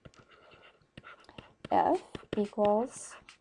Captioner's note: pen scratching